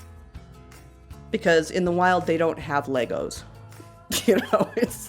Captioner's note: laughs